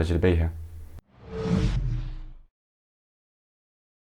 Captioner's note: air whooshing